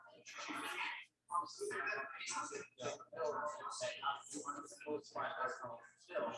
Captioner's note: people chattering indistinctly